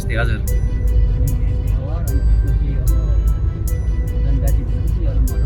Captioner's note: indistinct conversation